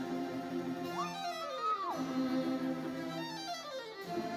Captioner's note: bright lively music continues; student cheers; bright lively music continues